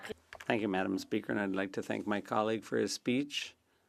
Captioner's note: speaking French